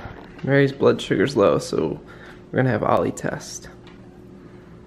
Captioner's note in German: none